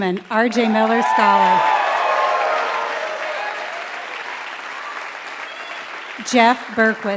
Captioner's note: applause